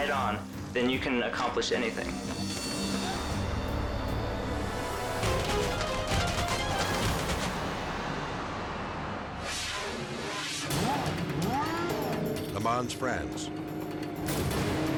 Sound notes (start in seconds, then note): 3.4 dramatic music; 10.6 engines revving